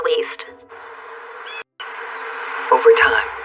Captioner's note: birirsquawks